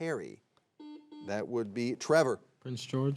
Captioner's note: buzzer beeps